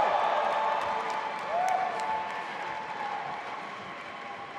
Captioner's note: audience applauding